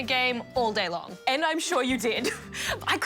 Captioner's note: laughs